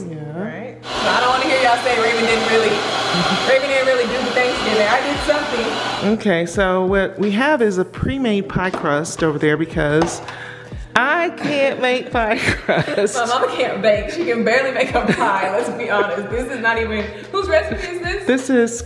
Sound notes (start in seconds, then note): 5.6 mixer whirring; 12.3 laughing